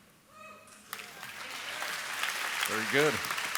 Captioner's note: applause